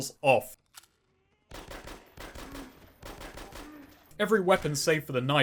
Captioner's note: zombie death noises; gunshots